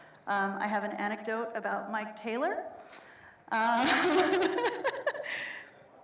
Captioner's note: laughs